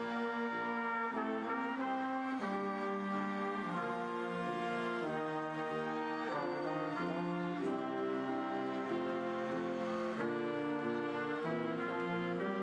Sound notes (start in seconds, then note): none